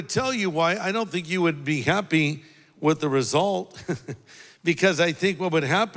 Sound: laughs

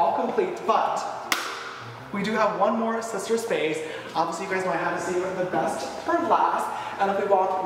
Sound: claps

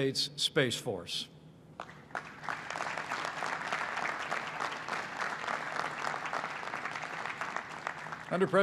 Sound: applause

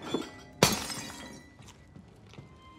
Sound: glass shatters

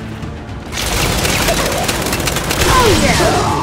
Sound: gunfire

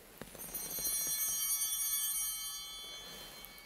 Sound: bell ringing

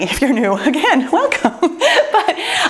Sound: laughs

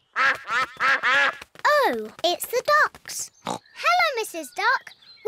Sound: quacking

